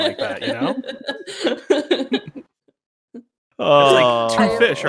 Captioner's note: laughter